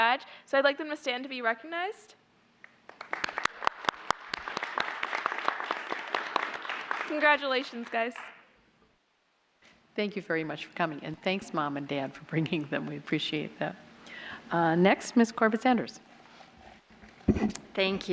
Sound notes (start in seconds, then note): 2.6 applause